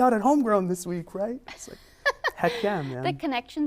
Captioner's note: laughs